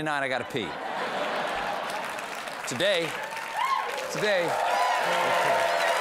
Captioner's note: laughter; applause